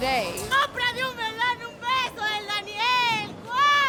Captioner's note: speaking Spanish